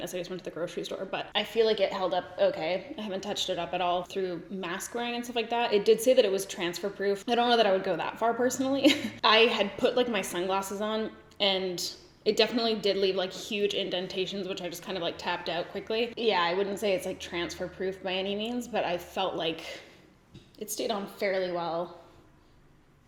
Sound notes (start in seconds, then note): 8.8 giggles